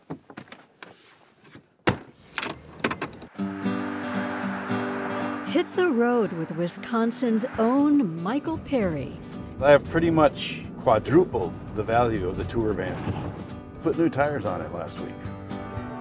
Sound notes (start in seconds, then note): 1.8 closes trunk